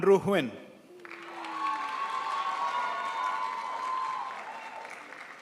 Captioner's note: crowd applauds